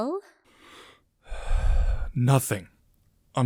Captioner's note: sigh